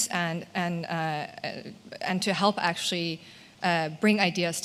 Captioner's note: none